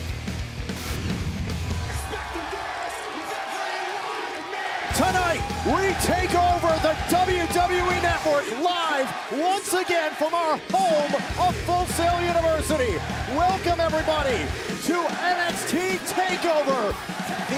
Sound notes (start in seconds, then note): 2.6 crowd cheering